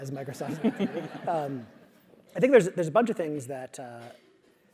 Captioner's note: laugh